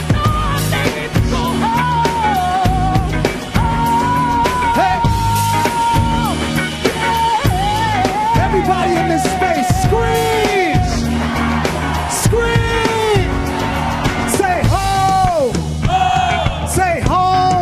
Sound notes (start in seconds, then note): 11.3 audience screaming